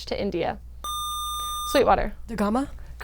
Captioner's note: buzzer